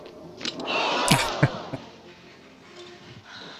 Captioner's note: chuckling